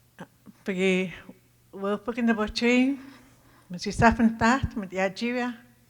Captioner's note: speaking Tohono O'odham